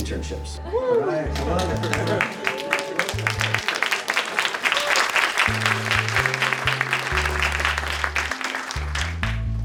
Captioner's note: clapping